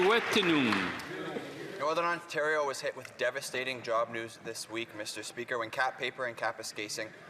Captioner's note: applause